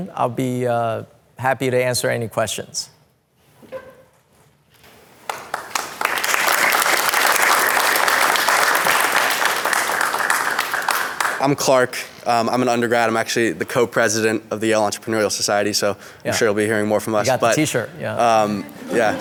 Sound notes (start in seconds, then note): 5.2 class clapping